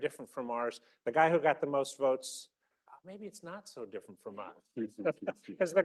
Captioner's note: laughter